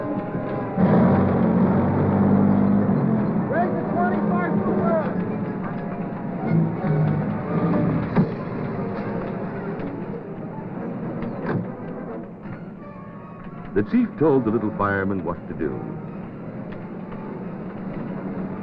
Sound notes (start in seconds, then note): 0.0 siren wailing; 0.6 truck noises